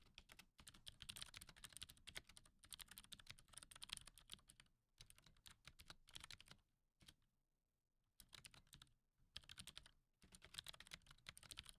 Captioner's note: typing